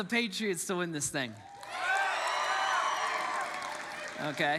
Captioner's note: congregants cheer and applaud